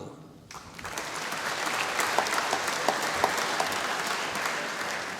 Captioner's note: applause